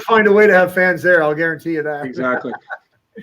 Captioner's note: laughter